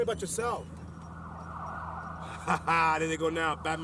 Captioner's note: police siren wailing; laughs